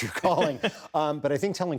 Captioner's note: laughter